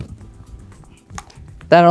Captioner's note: dice clatters in cup